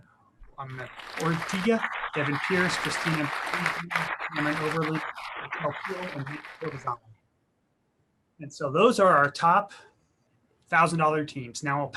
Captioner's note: clapping